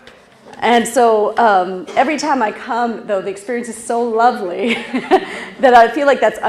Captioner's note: laugh